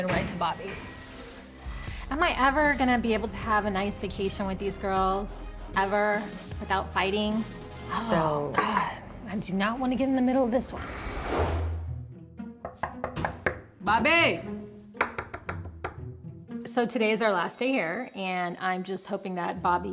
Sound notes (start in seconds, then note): 12.6 knocking